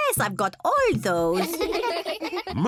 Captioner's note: kids giggling